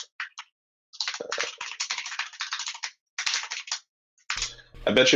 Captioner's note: keyboard keys clanking